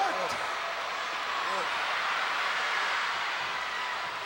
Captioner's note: crowd yelling